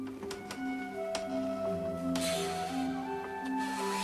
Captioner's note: clicking and squeaking